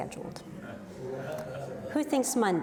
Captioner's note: audience murmurs